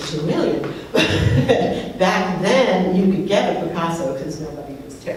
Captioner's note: laughs